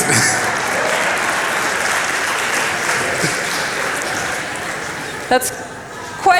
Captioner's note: applause